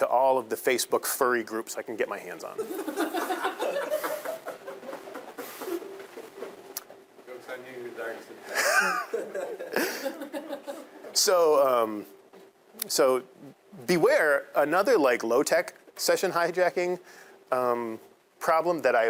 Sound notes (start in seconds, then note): 2.6 students laughing; 8.5 all laughing